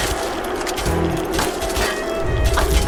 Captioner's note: Cheers from the Skulls fans and jeers from the Gruber fans!